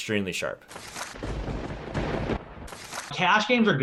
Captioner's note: thunder rumbling